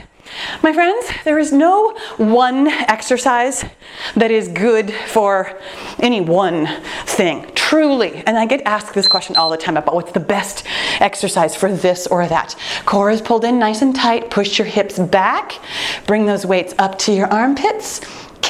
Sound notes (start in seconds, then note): 9.0 timer beeping